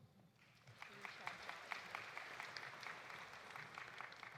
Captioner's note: audience applauding